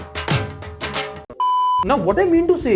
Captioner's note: beep